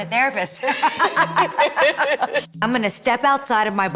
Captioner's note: laughter